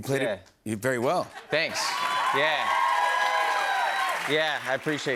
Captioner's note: cheers and applause